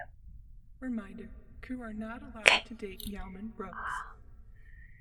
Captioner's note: voice over intercom